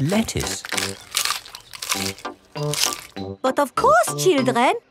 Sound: munching

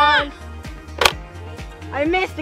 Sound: click

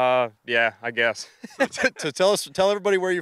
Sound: laughing

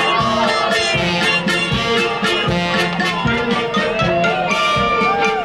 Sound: upbeat band music; performers cheer and hoot

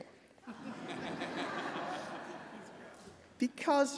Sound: laughing

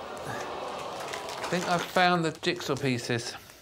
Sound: audience gasping and applauding

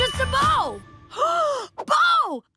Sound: gasping

